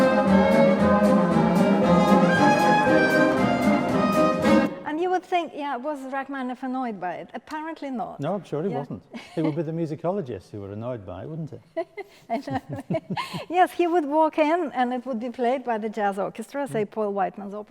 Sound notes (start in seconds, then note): 11.8 laughing